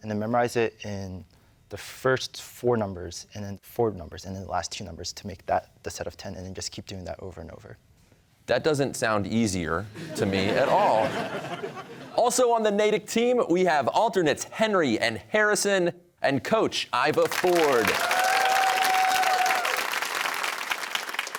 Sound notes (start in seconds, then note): 9.9 laughter; 17.2 cheers and applause